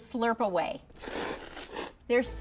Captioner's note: slurping